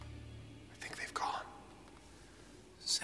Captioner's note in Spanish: susurrando